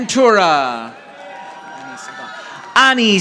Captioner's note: audience applauding